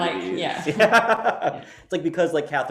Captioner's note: laughing